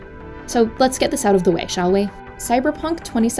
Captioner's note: none